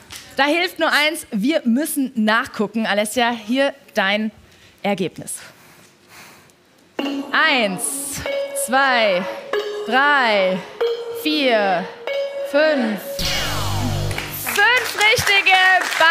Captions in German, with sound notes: Da hilft nur eines, wir müssen nachgucken. Alessia, hier dein Ergebnis. Eins, zwei, drei. Vier, fünf. (Lauter Ton) Fünf Richtige bei Alessia.